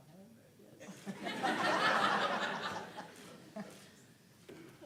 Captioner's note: laughter